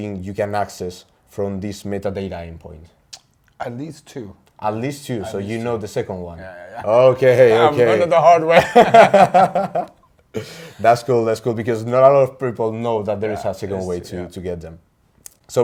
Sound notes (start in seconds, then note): 3.1 lips smack; 8.5 both laughing